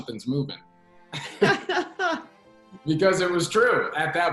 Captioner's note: both laugh